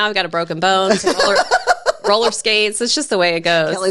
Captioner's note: laughing